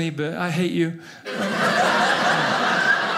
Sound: audience laughing

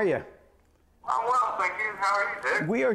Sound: phone rings

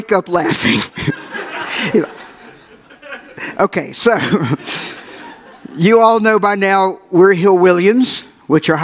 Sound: audience laughs

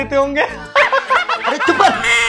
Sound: laughing

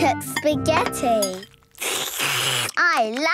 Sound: slurping

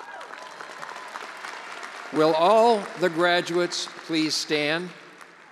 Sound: attendees applauding

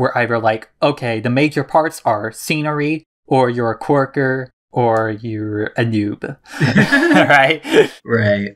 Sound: both laugh

